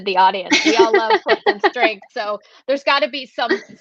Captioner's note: laughter